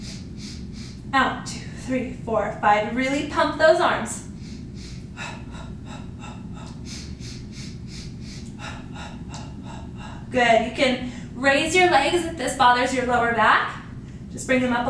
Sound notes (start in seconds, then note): 4.2 breathing